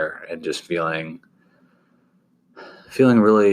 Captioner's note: sighs